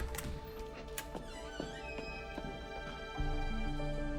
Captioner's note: door creaks